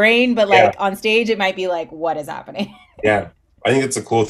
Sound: laughs

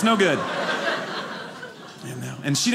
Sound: audience laughing

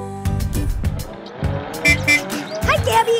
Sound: car beeping

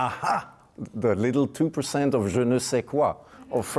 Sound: speaking foreign language

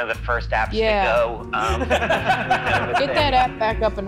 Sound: laughing

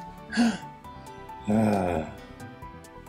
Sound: relief sigh

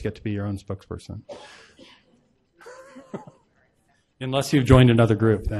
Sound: laughs

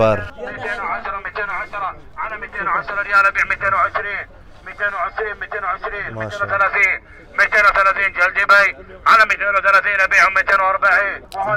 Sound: Arabic

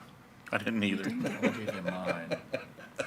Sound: laughs

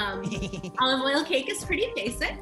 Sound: laughs

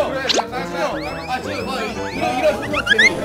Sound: Swish

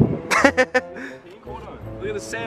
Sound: laughs

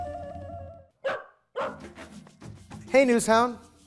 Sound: dog barking

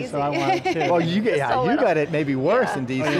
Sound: laughing

